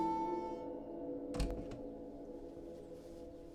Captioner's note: door Opens